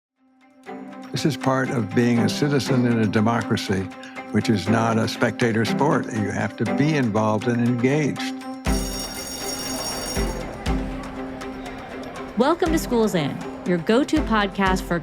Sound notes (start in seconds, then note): 8.6 electric bell ringing; 10.5 students chattering; 10.8 bright music